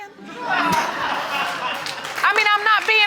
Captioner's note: audience laughing; laughs